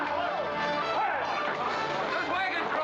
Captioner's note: men chattering